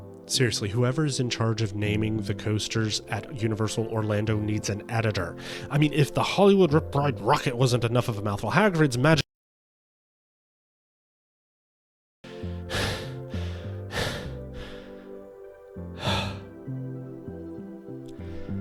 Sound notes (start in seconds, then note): 9.2 silence; 12.6 panting; 15.8 deep breath